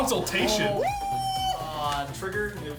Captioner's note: cheering